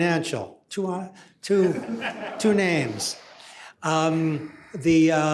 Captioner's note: laughter